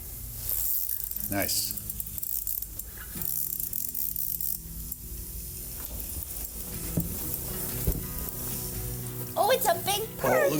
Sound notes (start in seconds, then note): 1.9 rod whirring